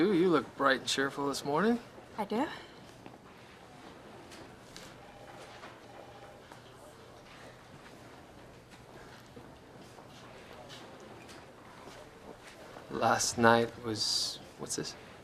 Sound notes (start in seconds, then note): none